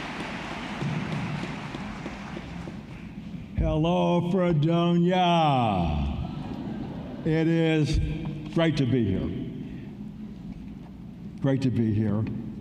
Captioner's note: applause